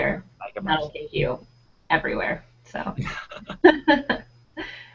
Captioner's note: laughing